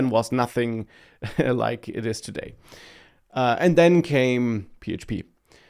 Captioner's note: laughs